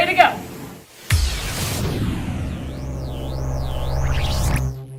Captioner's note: digital effects